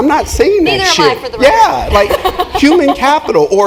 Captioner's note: laugh